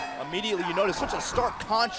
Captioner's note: bell ringing